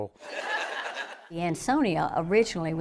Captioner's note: audience laughing